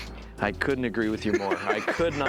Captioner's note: laughs